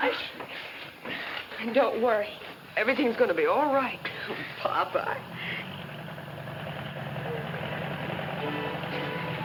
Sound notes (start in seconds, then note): 6.0 engine rumbling